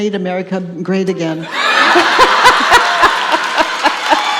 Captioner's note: audience laughs, applauds and cheers